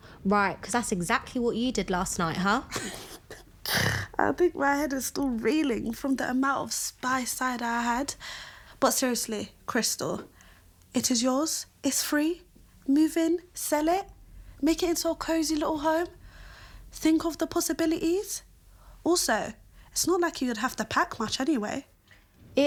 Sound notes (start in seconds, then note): 2.6 Hazel chuckles